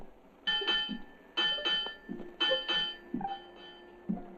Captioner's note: bell ringing; Adam's footsteps on deck